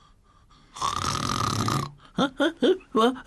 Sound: snoring

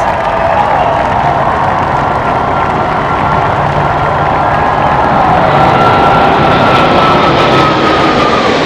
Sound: crowd cheering, the sound of jets roaring overhead

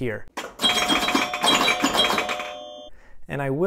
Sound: animated bells twanging

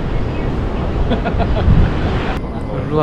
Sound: laughs

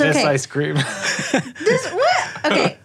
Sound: laughter

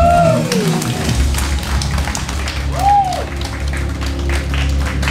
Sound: applause

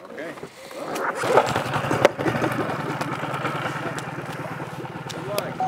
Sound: boat engine sputtering

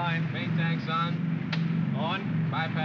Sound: switch clicks

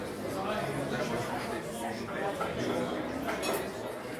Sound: overlapping chatters

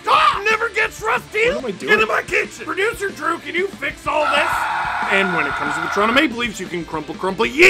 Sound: screaming

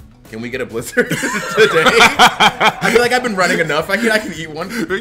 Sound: laugh

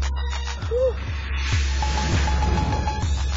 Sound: sighs; upbeat pump up music

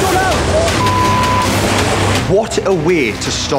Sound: beep

